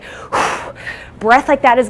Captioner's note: huffing